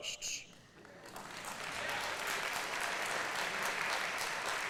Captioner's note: applause